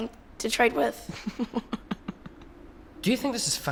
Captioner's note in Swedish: skrattar